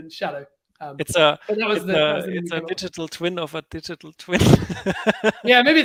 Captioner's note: laughs